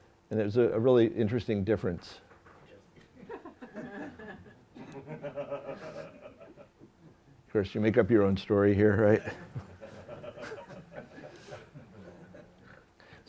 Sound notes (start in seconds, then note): 3.1 laughter